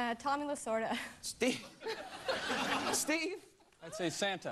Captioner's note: laughs